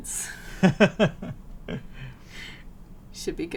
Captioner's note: laughs